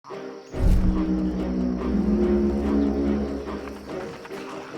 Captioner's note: ominous horn